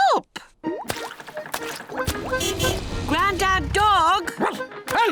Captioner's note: car horn honking; barks